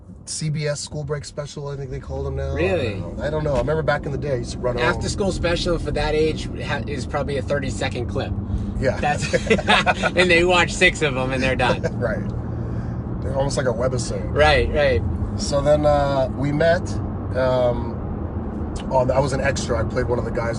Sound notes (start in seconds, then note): 9.2 laughing